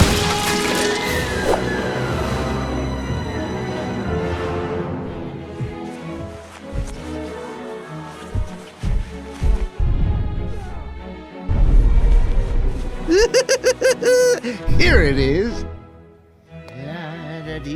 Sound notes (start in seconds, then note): 13.0 laugh